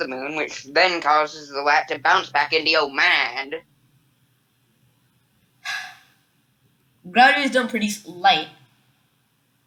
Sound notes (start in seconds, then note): 5.6 sigh